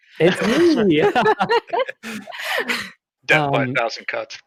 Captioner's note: laughter